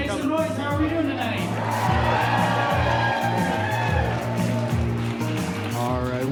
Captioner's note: crowd cheering